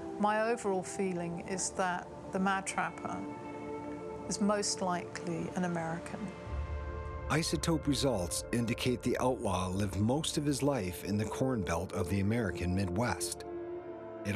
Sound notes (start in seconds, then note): 7.4 voiceover